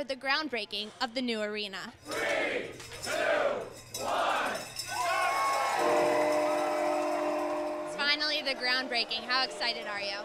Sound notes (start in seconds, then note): 4.8 cheering